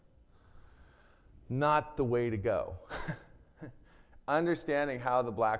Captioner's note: chuckles